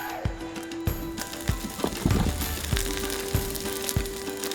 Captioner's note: sizzling